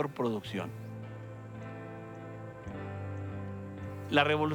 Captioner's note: birds chirping